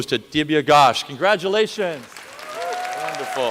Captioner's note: applause